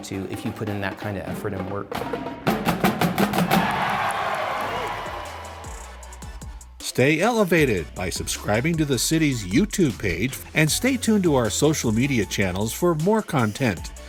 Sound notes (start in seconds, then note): 2.5 drumline cadence comes to a thunderous end; 3.0 crowd cheers approval